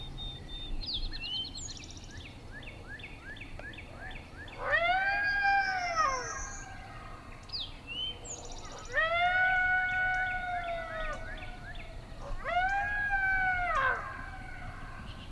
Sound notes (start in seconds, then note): 4.6 deer call; 12.6 grunting